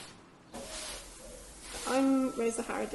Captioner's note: sweeping